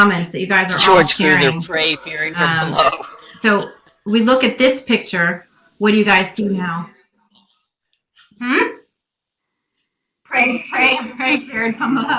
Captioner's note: laughs